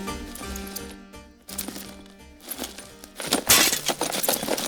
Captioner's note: box shaking; violent box shaking